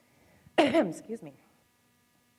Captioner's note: coughs